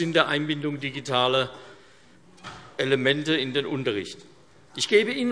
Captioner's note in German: none